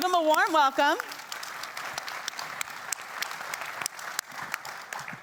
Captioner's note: attendees clapping